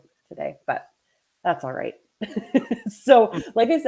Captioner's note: laughs